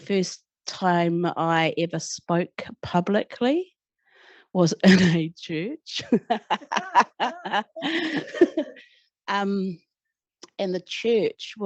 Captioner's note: laughter